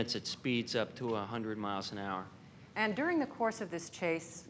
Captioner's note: none